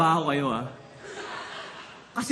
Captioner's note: laughter